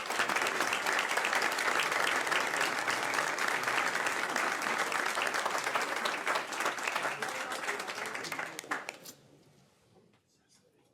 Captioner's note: applause